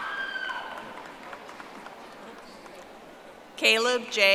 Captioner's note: audience applauding